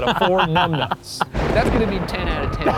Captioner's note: laughing